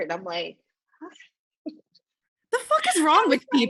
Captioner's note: laughs